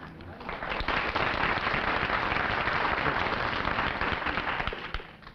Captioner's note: applause